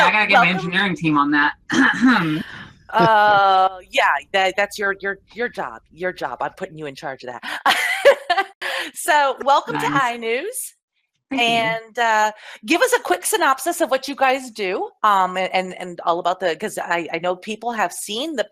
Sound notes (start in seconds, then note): 2.0 clears throat; 9.4 laughs